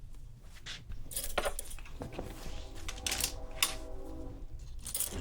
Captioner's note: hangers rattling